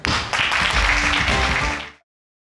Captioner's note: audience applauding